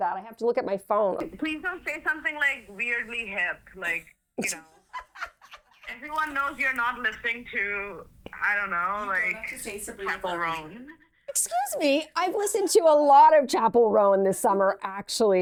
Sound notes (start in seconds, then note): 4.4 laughs